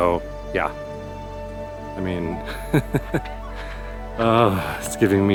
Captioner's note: laughter